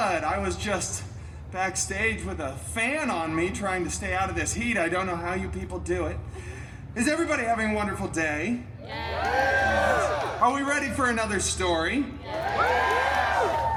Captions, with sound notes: I was just backstage with a fan on me, trying to stay out of this heat. I don’t know how you people do it. Is everybody having a wonderful day? [guests cheering] Are we ready for another story? [guests cheering]